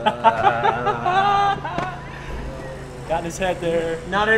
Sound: laughter

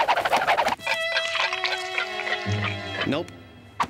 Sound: clock ticking slowly

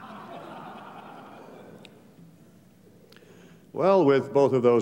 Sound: laughter

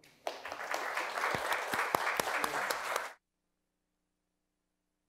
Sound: audience applauding

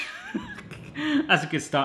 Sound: laugh

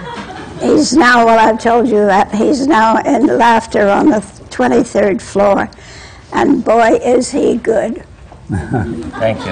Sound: laughter

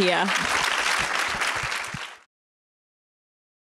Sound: applause

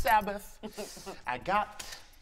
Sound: laughs

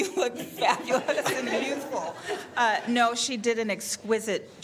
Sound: laughter

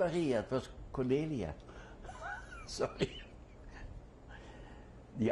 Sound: laughs

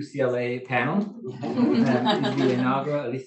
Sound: laughing

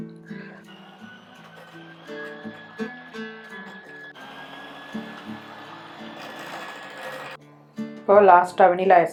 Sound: sound of blender

